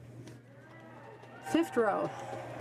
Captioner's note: speaking in french